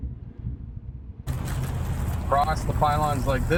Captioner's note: tires crunching on asphalt